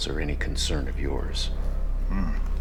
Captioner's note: chuckles